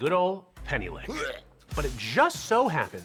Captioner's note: person wretching